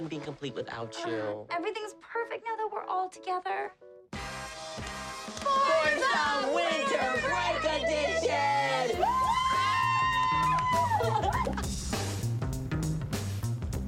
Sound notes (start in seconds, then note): 7.5 cheering; 10.4 upbeat guitar music